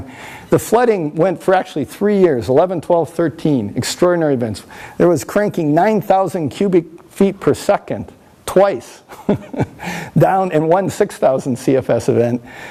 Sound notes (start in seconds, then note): 9.0 laughs